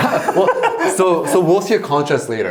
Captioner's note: laughing